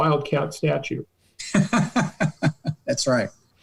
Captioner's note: laughter